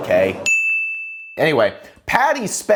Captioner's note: bell dings